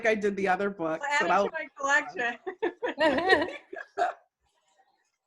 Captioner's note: laughter